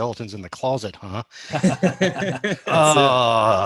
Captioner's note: laughs